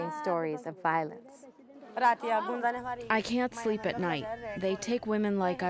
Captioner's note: through translator